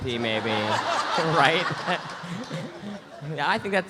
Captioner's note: audience laughs; laughs